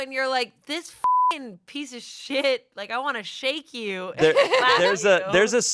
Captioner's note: beep